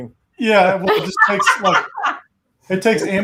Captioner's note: laughs